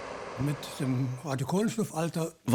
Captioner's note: speaking German